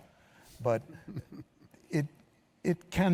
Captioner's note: chuckles